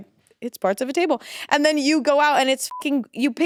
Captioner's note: beep